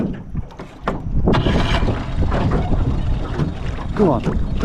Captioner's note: motor rumbling